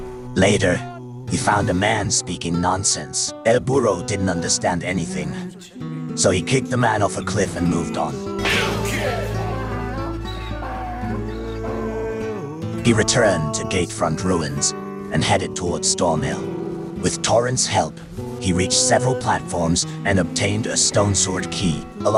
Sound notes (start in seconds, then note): 8.3 mule sound